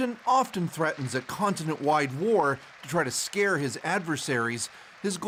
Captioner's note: applause